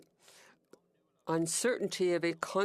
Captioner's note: speaking French